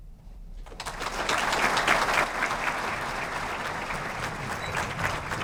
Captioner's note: audience applauds